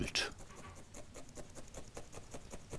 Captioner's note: quick rubbing